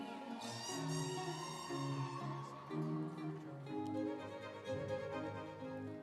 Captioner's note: instrumental music; audience cheering